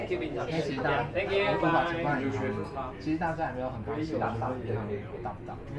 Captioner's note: speaking in foreign language